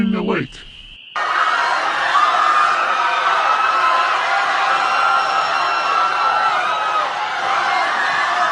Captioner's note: crowd at Shark Lake's shores screaming